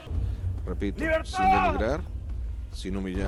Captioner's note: hallucination speaking